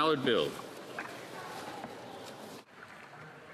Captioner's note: speaking French